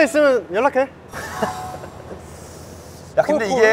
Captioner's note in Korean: 소근